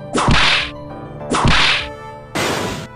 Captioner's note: whip crack!